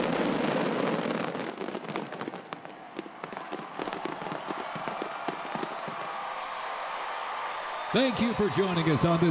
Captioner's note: applause